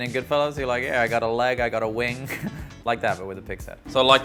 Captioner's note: chuckles